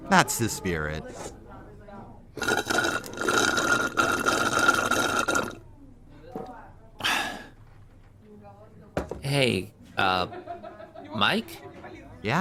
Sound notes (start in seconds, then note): 2.3 obnoxious straw slurping